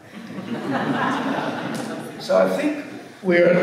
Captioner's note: audience laughs